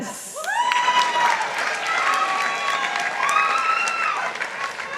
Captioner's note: participants applauding